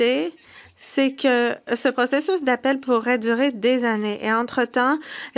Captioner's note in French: voix de l'interprète